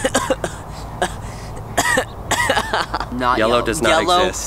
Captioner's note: coughing; grunts